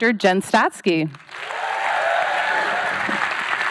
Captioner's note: cheering; applause